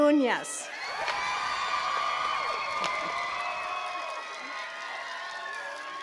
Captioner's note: attendees cheering and clapping